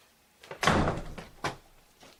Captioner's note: door slams